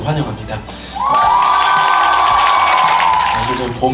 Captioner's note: the crowd welcomes him with loud cheers